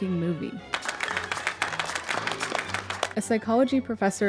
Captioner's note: applauding